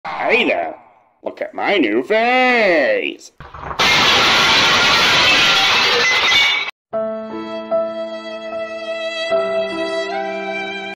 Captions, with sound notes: Hey there! Look at my new vase!! (VASE SHATTERS FOR SOME REASON) (SAD MUSIC)